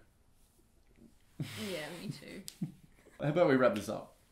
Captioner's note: he laughs